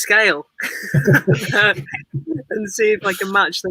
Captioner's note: laughs